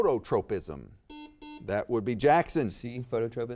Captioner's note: buzzer beeps